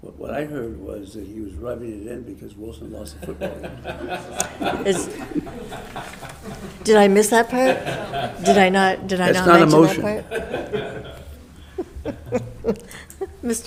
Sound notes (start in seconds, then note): 4.1 board member laughs; 11.7 laughing; 12.0 laughs